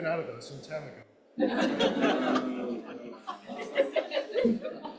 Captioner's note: laughter